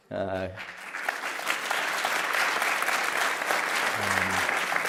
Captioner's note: applause